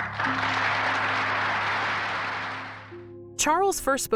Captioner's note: audience applauding